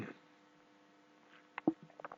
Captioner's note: swallowing